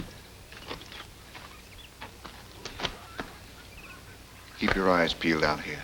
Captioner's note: birds chirping